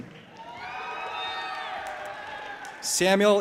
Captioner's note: audience applauding and cheering